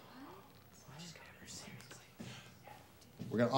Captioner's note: students whispering